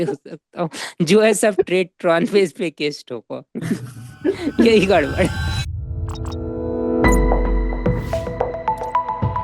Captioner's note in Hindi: हंसी